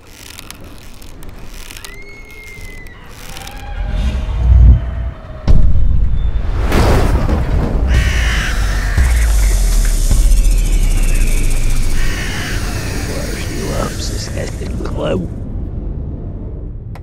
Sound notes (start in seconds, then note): 0.0 rope swishing; 0.0 rope creaking; 2.0 woman screaming; 6.8 thunder rumbling; 7.8 crow squawking; 7.9 snake hissing